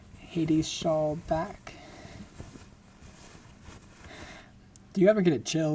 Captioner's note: fabric rustling